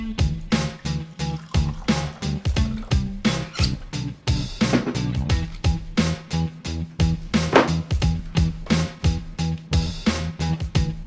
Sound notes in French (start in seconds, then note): none